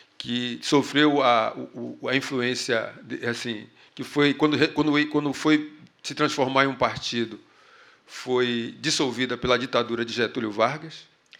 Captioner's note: speaking portuguese